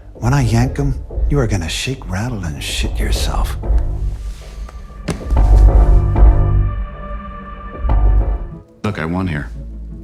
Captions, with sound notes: When I yank 'em, you are gonna shake, rattle, and shit yourself. (cellphone clatters) - Look, I won here.